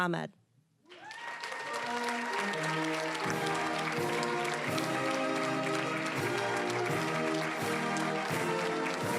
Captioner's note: cheering, applause